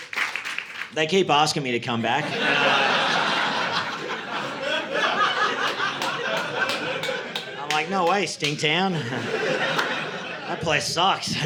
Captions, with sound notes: They keep asking me to come back. (audience laughing) I'm like, "No way, Stinktown. "That place sucks."